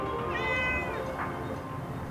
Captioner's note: cat meows